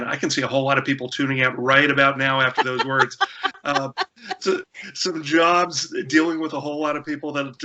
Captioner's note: laughter